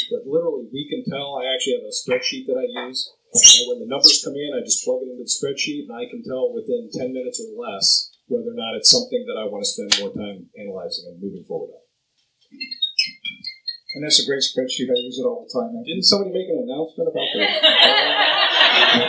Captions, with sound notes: But literally, we can tell I actually have a spreadsheet that I use. When the numbers come in I just plug them into the spreadsheet and I can tell within 10 minutes or less whether or not it's something I wanna spend more time analyzing and moving forward. (cell phone rings) - And that's a great spreadsheet, I use it all the time. - Didn't somebody make an announcement about the phones?